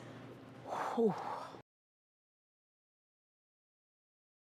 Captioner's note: exhales deeply